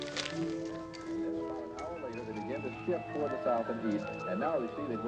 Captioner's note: TV chattering